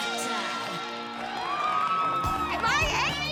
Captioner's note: song ends; cheering and applauding